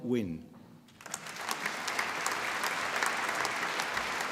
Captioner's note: applause